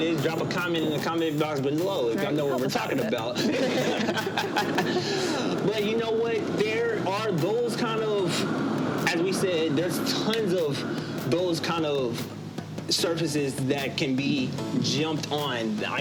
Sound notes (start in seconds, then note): 3.2 both laugh